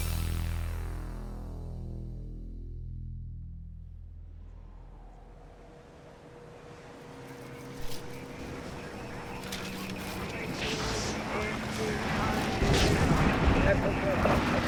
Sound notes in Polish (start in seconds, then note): 9.1 szum ze radyja i klangi ze miasta